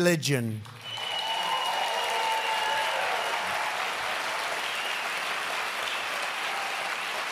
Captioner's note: applause